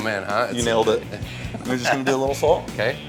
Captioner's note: laughs